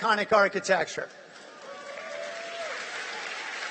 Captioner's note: applause